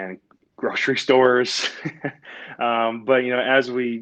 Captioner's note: laughs